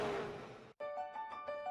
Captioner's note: engines roaring